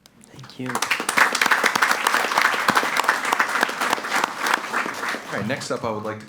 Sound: audience applauds

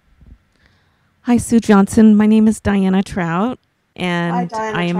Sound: voiceover; voiceover

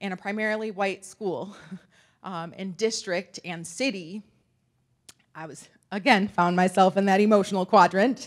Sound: laughs

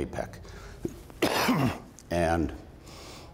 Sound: coughs

